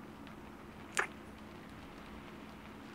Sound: kiss

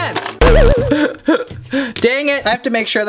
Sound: laughing

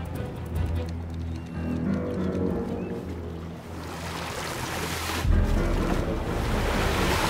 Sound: ominous music; seagull cries

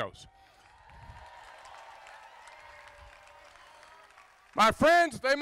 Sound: crowd applauding

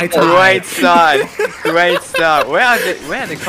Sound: laughing

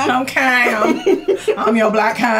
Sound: laughs

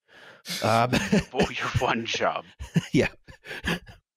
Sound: laughter

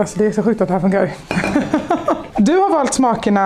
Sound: laughing in Swedish

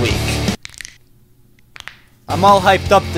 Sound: bones cracking

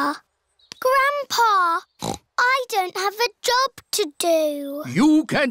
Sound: snorts

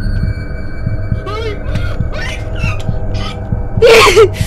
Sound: freaking out

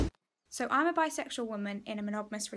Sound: air whooshing

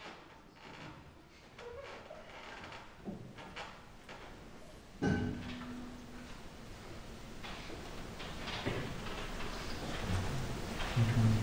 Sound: footsteps creak

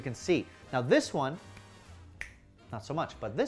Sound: snaps fingers

